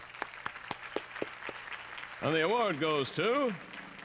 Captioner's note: applause